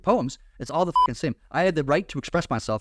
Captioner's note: beep